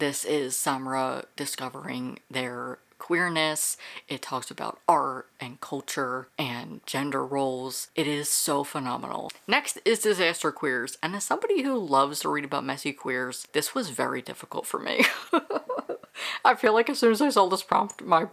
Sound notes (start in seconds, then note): 15.0 laughing